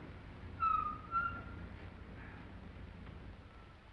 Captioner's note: engine rumbling; tires squealing